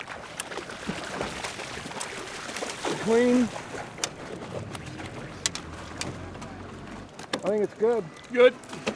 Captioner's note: fish splashing